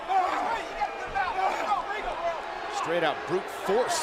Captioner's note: crowd chatter